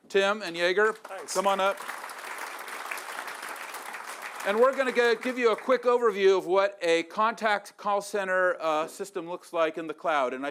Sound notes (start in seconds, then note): 0.8 applause